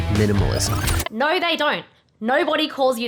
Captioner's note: record scratching